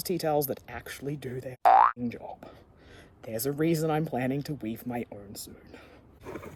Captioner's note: boing!